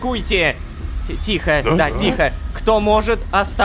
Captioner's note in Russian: Удивление толпы